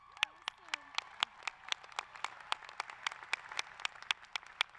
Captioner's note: applause